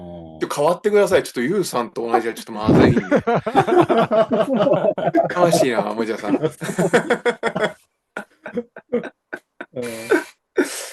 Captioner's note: laughter